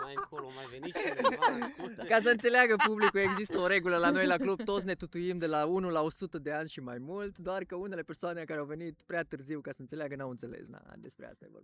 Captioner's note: everyone laughs